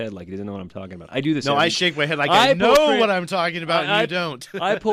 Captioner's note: laughs